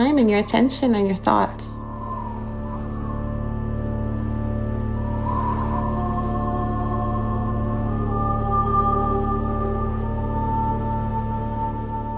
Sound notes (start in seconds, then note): 3.6 dramatic music; 3.6 wind blowing